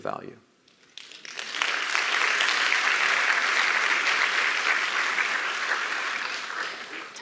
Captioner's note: applause